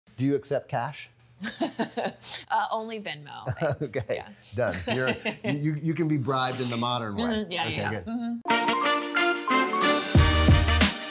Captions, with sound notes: - Do you accept cash? - (laughs) Only Venmo, thanks, yeah. - (laughs) Okay, done. You can be bribed in the modern way. - Yeah, yeah. - Okay. (upbeat music)